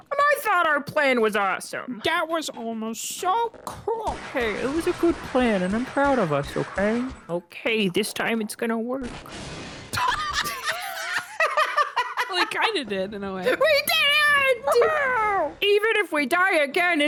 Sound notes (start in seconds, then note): 9.0 explosion; 9.9 both laugh